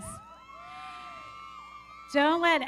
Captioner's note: audience cheering; everybody clapping